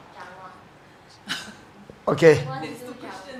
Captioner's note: speaking in foreign language